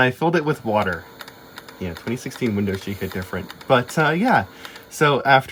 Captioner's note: sad waterlogged HDD clicking noises